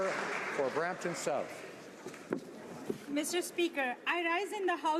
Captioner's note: applause